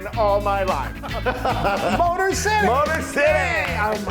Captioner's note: laugh